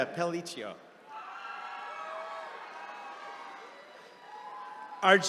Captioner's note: attendees cheering